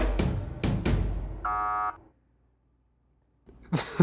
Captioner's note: alarm bell buzzing